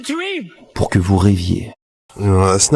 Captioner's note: french dialogue continues